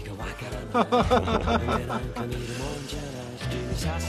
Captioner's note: chuckles bitterly